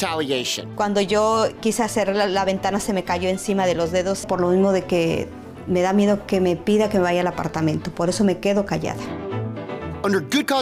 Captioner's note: speaking spanish